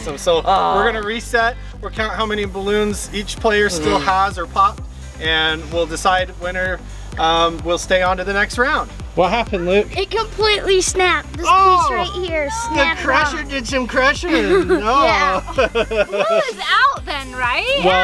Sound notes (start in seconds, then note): 14.2 laughs